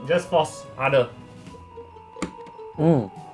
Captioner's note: click